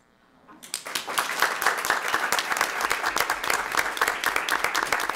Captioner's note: everyone clapping